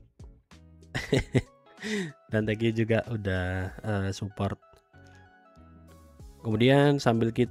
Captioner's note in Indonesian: tertawa